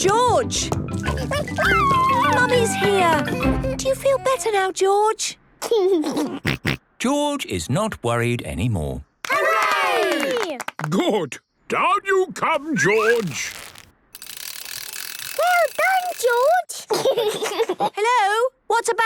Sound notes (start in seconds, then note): 1.1 George crying; 6.6 giggles; 16.8 giggles